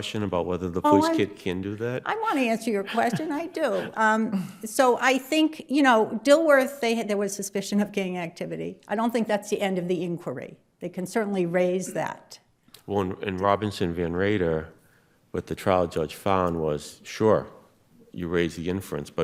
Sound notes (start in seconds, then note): 2.8 chuckling